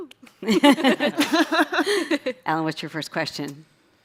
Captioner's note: chuckles